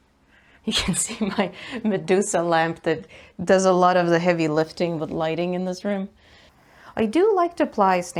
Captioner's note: talks while laughing